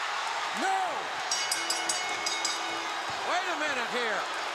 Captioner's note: bell dinging